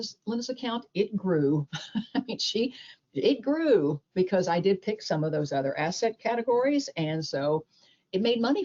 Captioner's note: chuckles